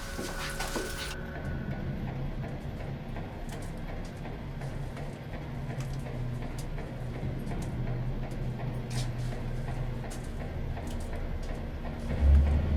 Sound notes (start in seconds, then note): 0.9 ominosa de la música; 1.6 maquinaria zumbido